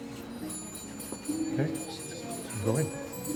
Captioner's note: bell ringing